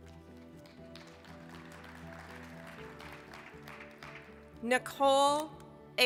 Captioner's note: applause